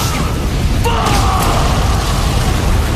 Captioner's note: explosion